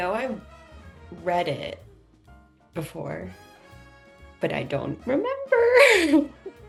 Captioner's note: laughing